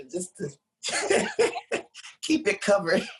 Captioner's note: laughs